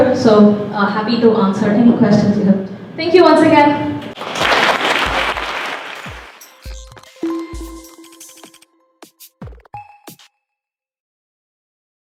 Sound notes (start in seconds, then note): 4.1 applause; 6.0 soft music